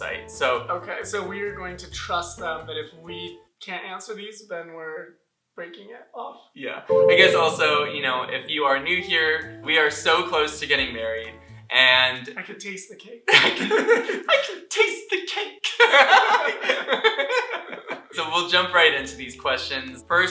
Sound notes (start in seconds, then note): 6.9 light music; 15.6 laughter